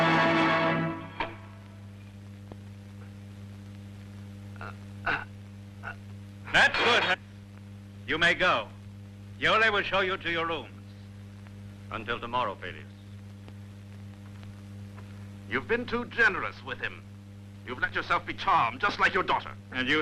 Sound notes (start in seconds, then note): 4.6 grunting